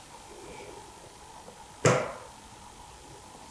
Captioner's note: three quiet taps